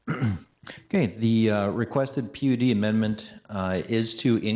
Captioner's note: clears throat